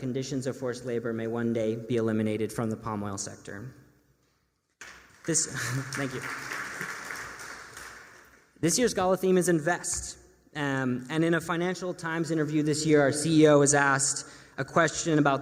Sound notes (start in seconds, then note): 4.8 applause